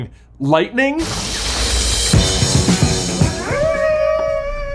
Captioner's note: superheroes howling